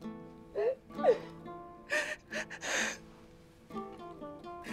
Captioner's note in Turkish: Ağlama sesi